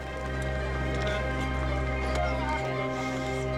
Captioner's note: indistinct chatter